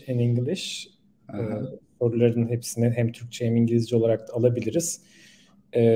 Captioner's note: Turkish speech